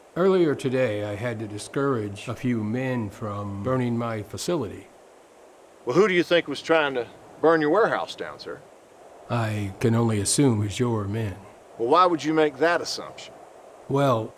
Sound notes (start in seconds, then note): none